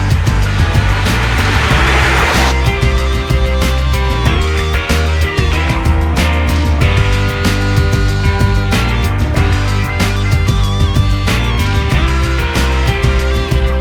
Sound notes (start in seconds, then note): 1.2 car engine roars; 2.8 upbeat rock music continues